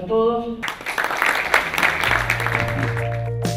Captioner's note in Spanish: Aplausos